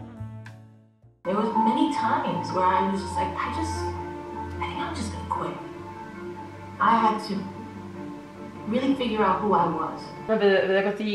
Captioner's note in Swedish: Ljud från tv:n